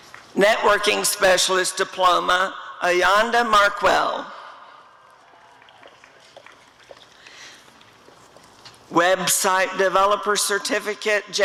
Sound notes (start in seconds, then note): 5.2 applause